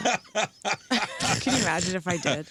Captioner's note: laughing